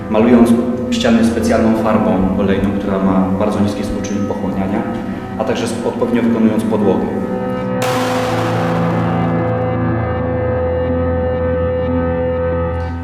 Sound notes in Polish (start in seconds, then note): 7.8 wybuch; 7.8 pogłos